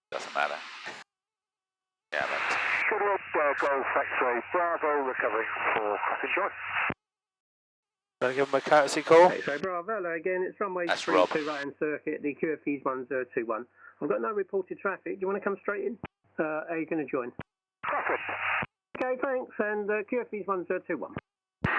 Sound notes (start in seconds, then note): 14.1 goodwood radio chatter